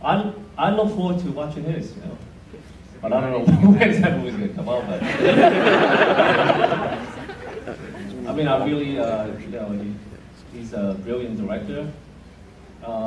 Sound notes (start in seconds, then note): 5.0 laughter